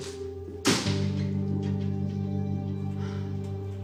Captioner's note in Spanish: Portazo